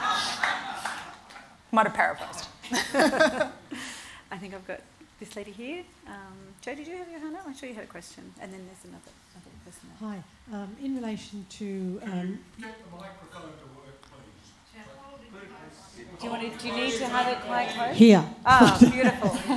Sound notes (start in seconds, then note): 0.0 laughs; 2.7 laughter